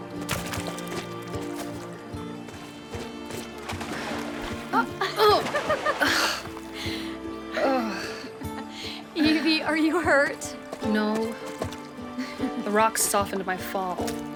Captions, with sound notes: (Evelyn grunts) (Siena laughs) (Evelyn groans) - Evie, are you hurt? - No. The rock softened my fall.